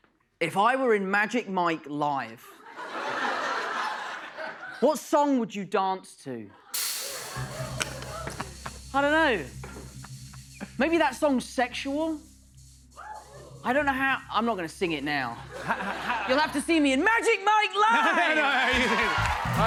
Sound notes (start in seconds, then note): 2.4 laughter